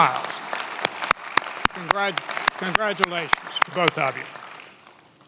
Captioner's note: many applauding